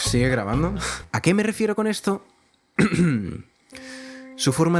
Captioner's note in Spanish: Se aclara la garganta